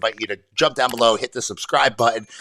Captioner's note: typing; clicking; bell dinging